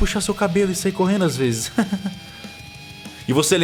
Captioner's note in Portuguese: risos